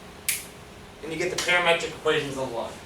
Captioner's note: snaps